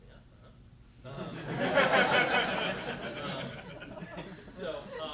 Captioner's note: laughter